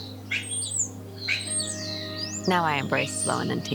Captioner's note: birdsong